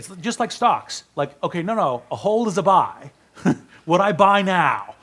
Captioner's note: laughs